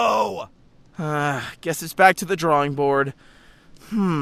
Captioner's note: sigh